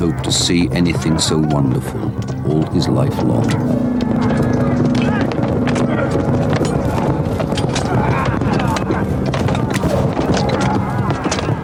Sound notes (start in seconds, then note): 5.2 clanking; 6.6 grunting